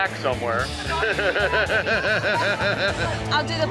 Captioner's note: laughter